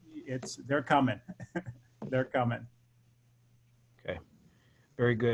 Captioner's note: laugh